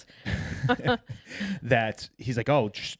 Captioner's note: both laughing